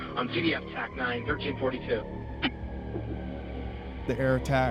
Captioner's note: radio